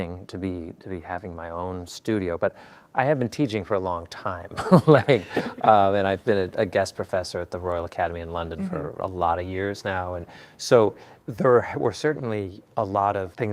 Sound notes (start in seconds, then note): 4.6 laughs